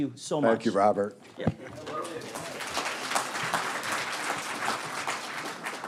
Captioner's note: students applauding